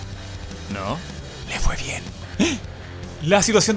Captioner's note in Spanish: Grito de sorpresa